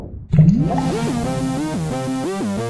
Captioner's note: bubbling; cosmic synth hum; fizzing; cosmic music